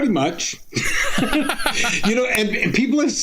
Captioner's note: laughing